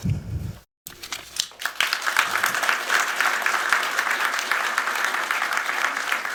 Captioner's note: applause